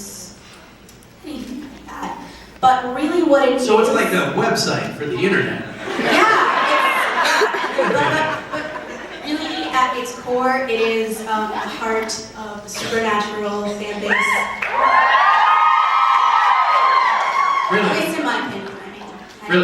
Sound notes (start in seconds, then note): 5.9 enthusiastic crowd affirmation; 14.0 more cheering from the audience